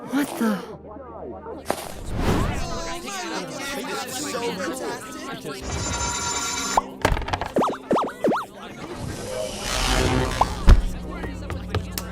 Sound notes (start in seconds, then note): 2.8 excited chatter